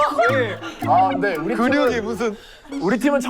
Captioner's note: tsk